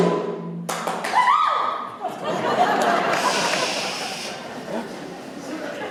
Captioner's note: audience laughter